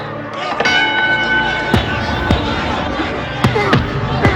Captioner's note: crowd cheering and yelling; bell dings; Mike grunting